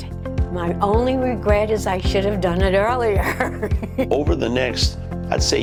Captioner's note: laughing